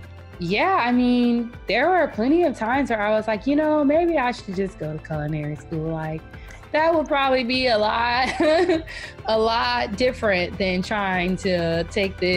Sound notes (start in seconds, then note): 9.0 laughing